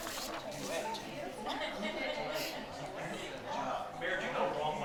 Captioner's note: attendees chatter